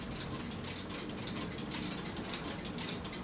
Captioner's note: regular ticking